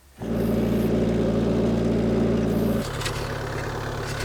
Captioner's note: engine roaring